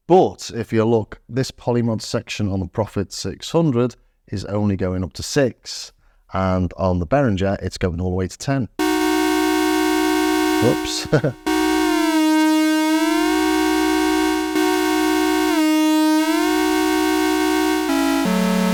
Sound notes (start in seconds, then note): 11.0 laughs